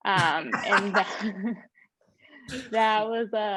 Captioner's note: panelists laughing